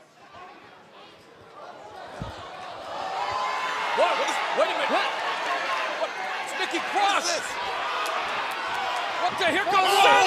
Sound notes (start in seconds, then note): 0.0 fans chanting; 3.2 cheers and applause